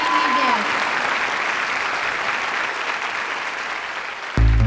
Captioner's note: applause; pulsing electronic music